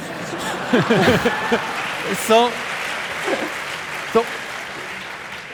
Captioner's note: audience laughing; audience applauding